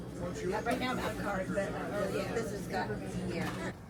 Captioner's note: customers talking